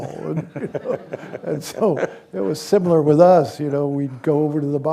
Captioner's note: laughter